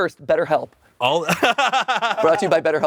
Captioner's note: Anthony laughs